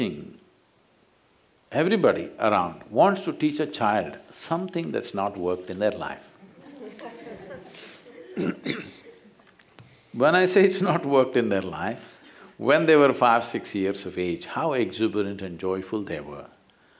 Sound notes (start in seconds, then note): 6.4 laughter